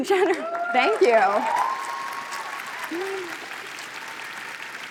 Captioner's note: applause